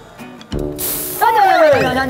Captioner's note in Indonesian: Semprot